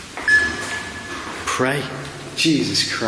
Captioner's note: machine beeps